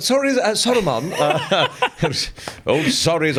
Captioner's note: laughs